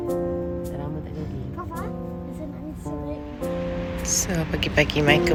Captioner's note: speaking German